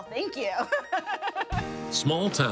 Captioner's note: laughing